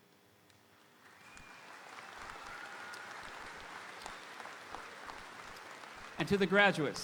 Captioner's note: audience applauding; audience cheering